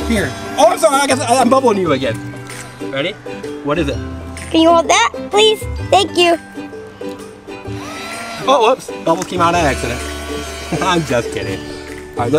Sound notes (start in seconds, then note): 7.8 bubble wand buzzes